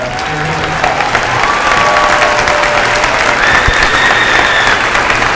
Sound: cheers and applause

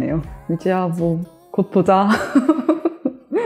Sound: laugh

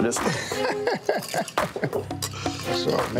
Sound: laughs

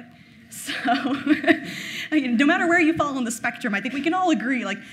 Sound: laughing

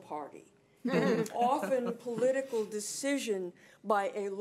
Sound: board members laughing

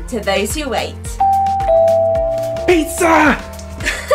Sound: doorbell rings; laughs

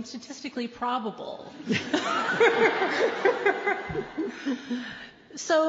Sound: laughter

